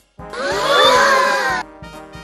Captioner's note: all gasp